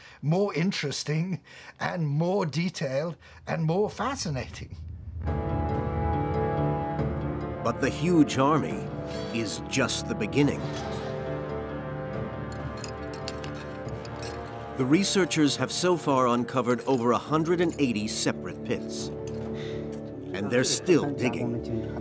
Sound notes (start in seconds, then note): 5.4 thoughtful dramatic music; 12.4 tools clinking